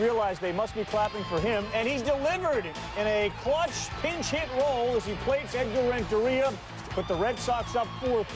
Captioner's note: crowd cering